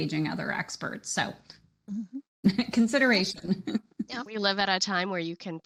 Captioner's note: chuckles